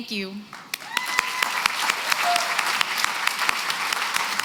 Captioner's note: applause